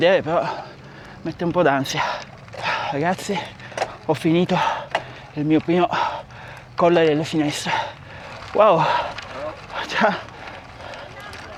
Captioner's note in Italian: sospiri